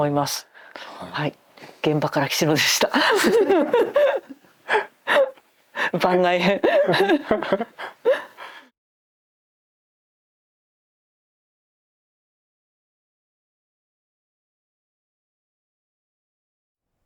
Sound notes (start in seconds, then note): 6.5 laughter